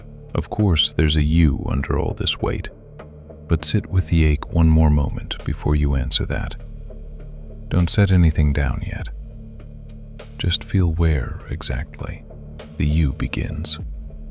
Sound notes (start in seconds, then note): 6.7 barely above a whisper